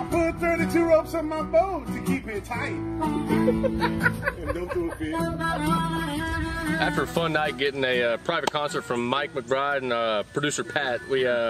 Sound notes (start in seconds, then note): 0.0 harmonica music; 3.2 laughing